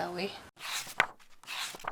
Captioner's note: pages turning